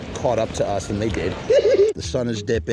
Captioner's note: mischievous giggling